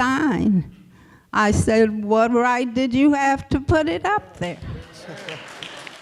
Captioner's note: applause